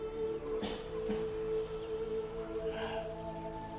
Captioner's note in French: tousser